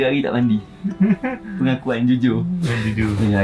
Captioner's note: laugh